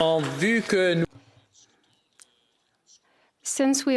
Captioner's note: some Applause